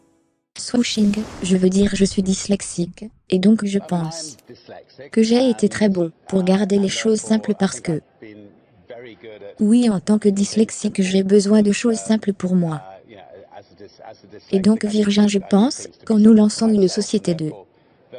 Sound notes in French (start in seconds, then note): 0.8 swooshing